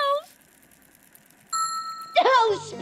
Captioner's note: ding!